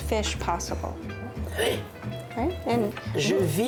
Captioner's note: speaking French